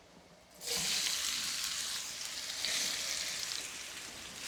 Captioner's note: sizzling